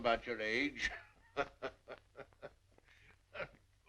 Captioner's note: laughing